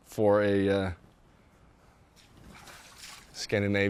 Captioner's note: splashes